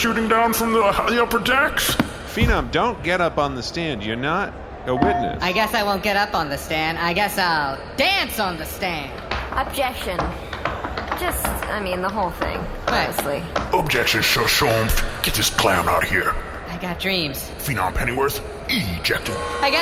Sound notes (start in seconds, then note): 15.0 single tap of gavel; 19.2 buzzer sound